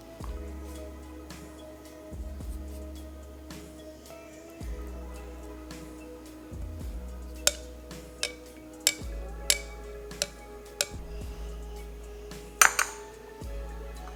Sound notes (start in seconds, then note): 8.2 sound of spatula hitting the pot